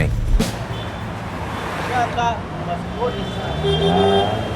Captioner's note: street noise